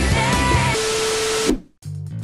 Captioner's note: static noise